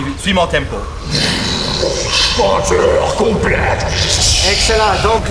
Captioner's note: vocalizes a vortex